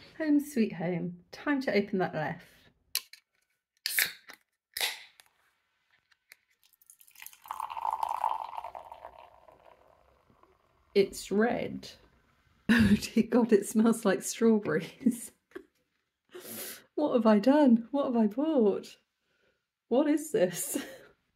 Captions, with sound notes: Home sweet home. Time to open that Leffe. [can cracking] [pouring and fizz] It's red. Oh dear God, it smells like strawberries. What have I done? What have I bought? What is this?